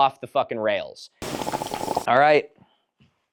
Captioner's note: slurping noise